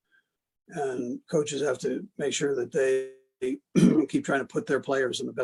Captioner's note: cough